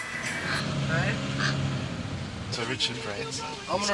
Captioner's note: car engine